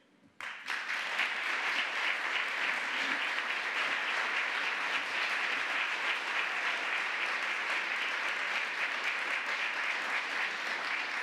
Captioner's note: applause